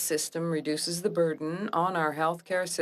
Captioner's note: speaking French